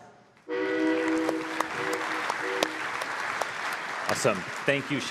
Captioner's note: applause